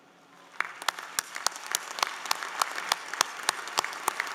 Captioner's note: applause